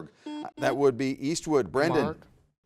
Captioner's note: buzzer buzzes